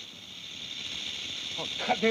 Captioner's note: snake rattles